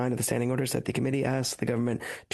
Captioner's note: speaking French